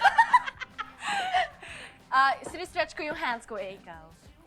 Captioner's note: laughing